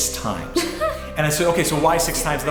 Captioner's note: laughs